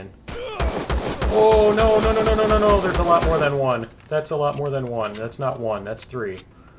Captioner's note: pistol firing